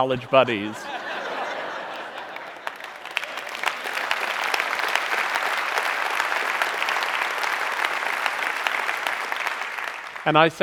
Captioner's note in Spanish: Aplausos